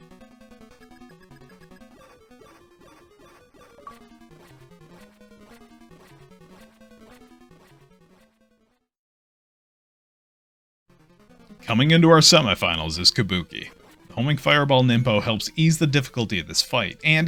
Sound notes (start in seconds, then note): 3.6 achievement bloop